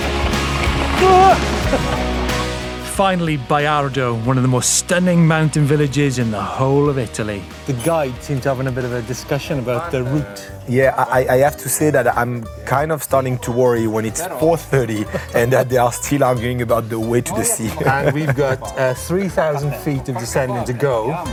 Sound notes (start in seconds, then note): 0.0 laughing; 1.4 shouting; 14.8 chuckling; 17.3 chuckling